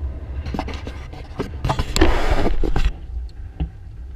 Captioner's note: GoPRO HINGE CREAKING